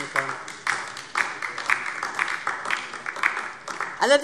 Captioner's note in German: Beifall DIE LINKE